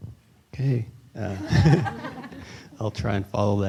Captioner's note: laughter